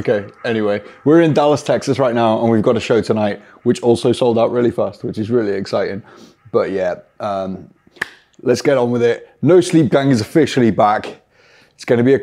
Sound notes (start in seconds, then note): 7.5 claps